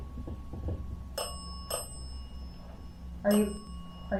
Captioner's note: bell dings repeatedly